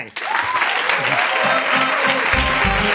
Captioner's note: applause